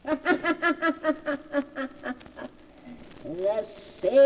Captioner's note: laughter